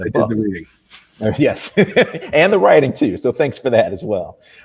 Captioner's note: laughs